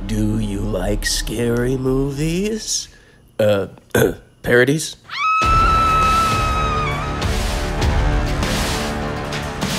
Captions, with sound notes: [voice on phone] Do you like scary movies? Uh…parodies? [scream]